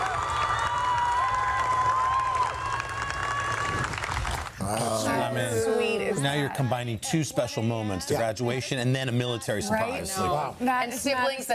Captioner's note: applause